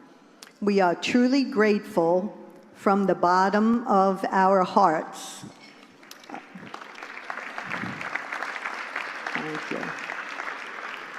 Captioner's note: applause